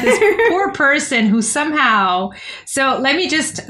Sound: laughter

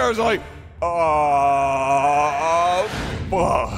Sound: aaawwwwwwwww

